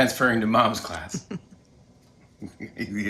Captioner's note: chuckles